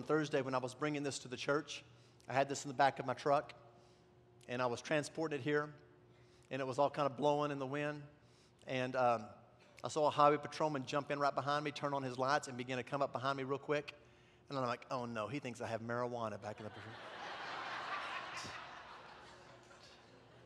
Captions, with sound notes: on Thursday when I was bringing this to the church, I had this in the back of my truck, and I was transporting it here, and it was all kinda blowing in the wind, and I saw a highway patrolman jump in right behind me, turn on his lights, and begin to come up behind me real quick. And then I think, "oh no, he thinks I have marijuana." (congregation laughs)